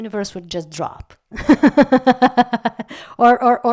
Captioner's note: laugh